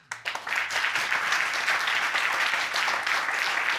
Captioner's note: audience applauding